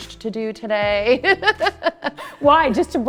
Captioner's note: chuckling